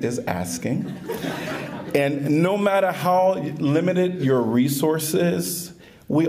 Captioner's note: laughter